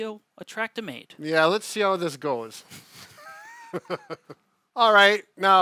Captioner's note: laughs